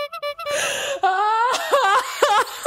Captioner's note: sobbing